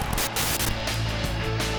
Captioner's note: static hissing; upbeat music continues